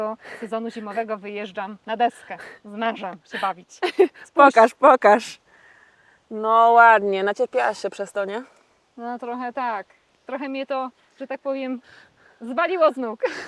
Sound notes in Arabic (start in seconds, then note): 4.2 تتحدث باللغة الأجنبية